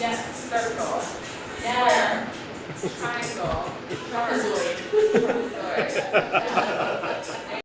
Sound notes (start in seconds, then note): 5.4 laughing